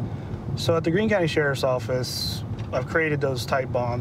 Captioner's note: none